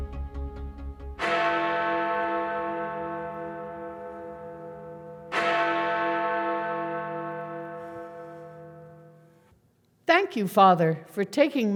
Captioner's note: bells chime